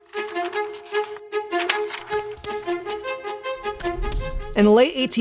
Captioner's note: paper rustling; upbeat music